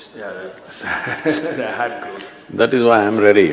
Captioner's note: laughs